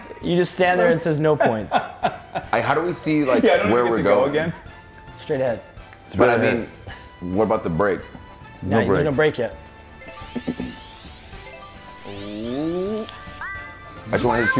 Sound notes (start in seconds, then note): 4.2 laugh